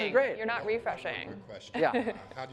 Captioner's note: laughs